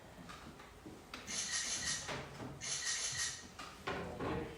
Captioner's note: camera clicks